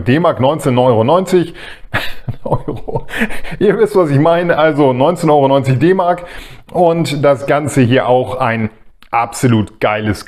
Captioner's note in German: gelächter